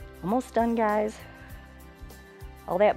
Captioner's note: exhales